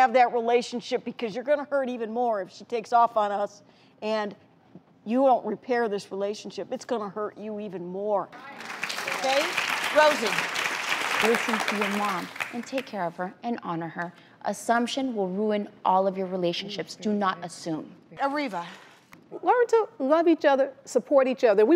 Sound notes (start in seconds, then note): 8.3 applause